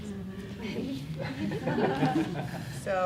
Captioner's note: class chuckling